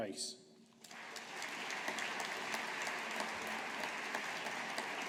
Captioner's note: audience applauding